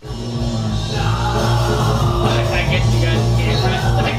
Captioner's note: loud whirring and singing